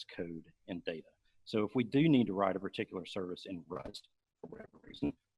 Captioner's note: murmurs